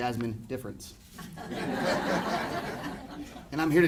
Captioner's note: audience laughing